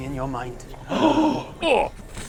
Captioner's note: horrified gasps